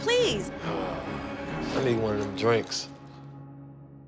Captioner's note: sighs; instrumental music